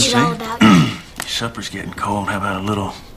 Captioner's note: clears Throat